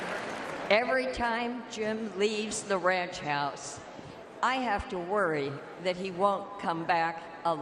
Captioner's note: cheers and applause